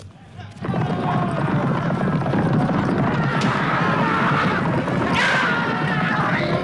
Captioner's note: horse hooves pounding; raiders clamoring